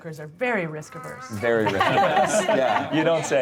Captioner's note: group laughing